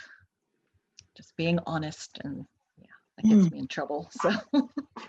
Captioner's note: laughs